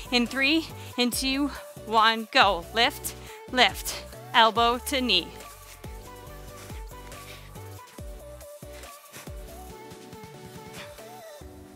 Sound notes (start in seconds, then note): 5.8 soft upbeat music; 6.2 breathes